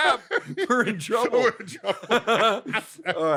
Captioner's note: laughter